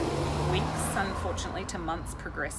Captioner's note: traffic passing